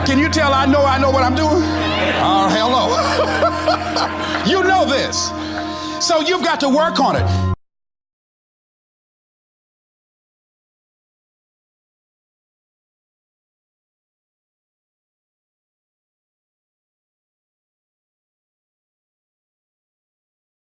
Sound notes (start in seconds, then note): 2.8 laughter